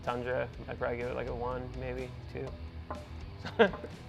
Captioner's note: chuckling